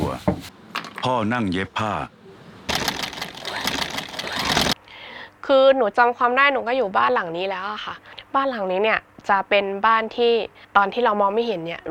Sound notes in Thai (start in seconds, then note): 0.0 เสียงตำครก; 2.7 เสียงจักรเย็บผ้า